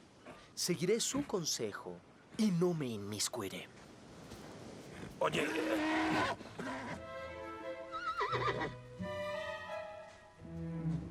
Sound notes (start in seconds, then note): 5.3 horse moans; 8.0 neigh